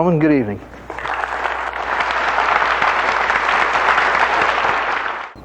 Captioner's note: audience applauding